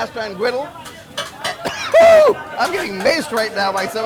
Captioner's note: metallic clinking; yelps